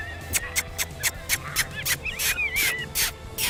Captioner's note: kissing noise